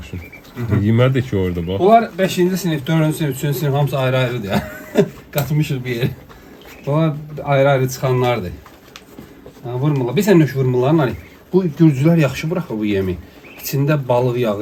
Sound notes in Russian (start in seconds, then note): 7.0 смех